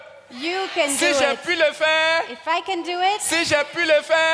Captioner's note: continues in French